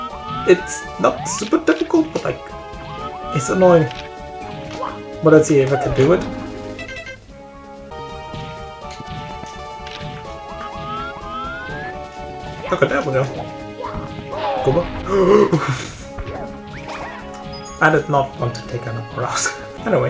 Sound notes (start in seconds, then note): 15.1 gasp